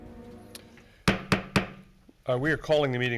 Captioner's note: gavel banging